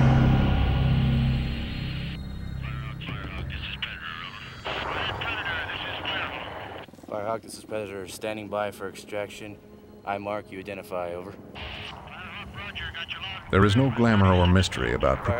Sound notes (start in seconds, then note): 0.0 dramatic music; 3.4 radio chatter; 12.8 voiceover